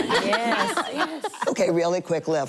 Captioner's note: laughter